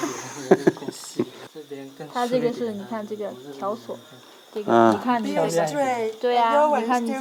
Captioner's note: laughter